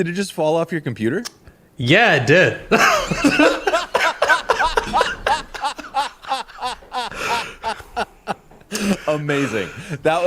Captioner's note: laughter